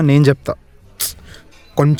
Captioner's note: sighs